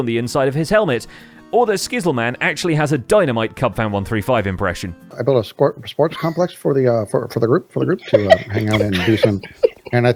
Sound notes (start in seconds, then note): 5.4 impersonating Cub; 8.0 snickering